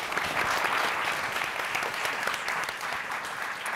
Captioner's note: applauding